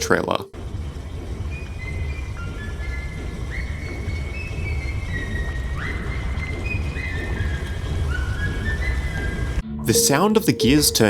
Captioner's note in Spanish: Sonidos silbidos